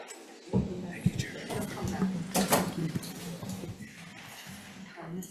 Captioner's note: indistinct conversation